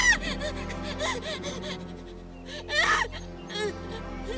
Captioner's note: screams; gasping